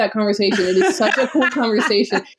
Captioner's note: laughs